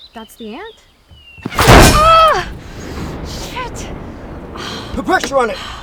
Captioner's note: winces; car bashing